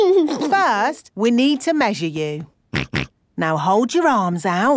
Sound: snorts

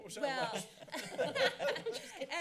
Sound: laughter

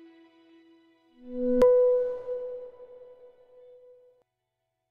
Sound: echoing digital beep

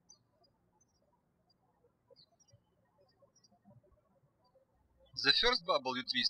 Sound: birds chirping

